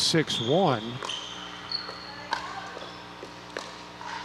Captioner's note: ball bouncing